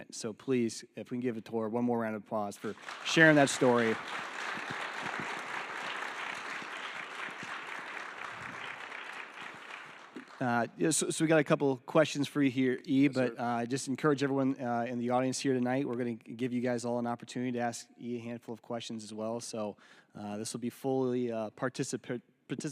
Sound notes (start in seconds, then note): 2.6 attendees applauding